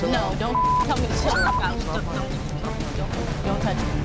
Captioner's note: beep